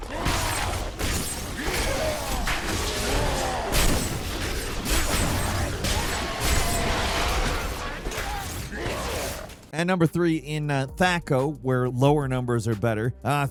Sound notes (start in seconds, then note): 0.3 monster growling; 5.0 weapon smashing; 5.3 monster growling